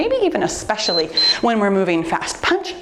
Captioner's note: timer beeps